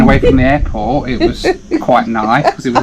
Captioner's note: laughing